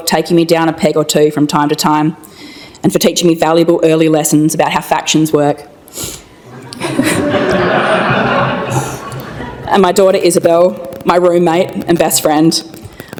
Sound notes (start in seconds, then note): 6.5 laughter